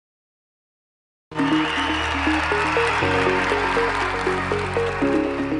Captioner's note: cheering